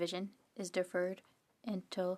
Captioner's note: speaking French